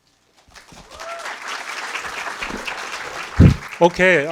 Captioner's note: audience applauding